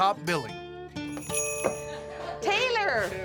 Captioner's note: door bell jingles